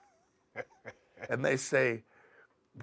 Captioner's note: laugh